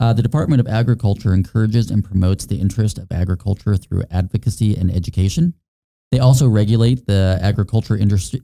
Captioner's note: none